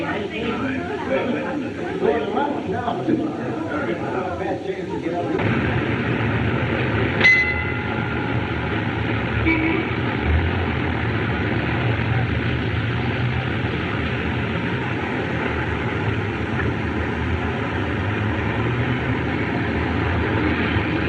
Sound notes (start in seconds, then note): 0.0 chattering; 7.2 bell Clangs; 9.3 horn Honks